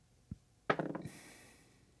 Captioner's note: dice rolling